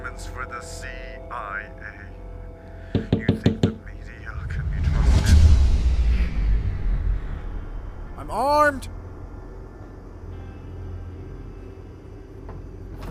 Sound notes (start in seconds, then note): 2.9 knocking; 10.5 eerie music